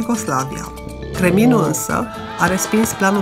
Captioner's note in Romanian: răget de urs